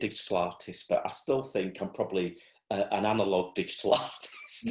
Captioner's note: laughs